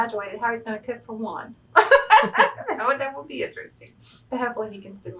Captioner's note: laughs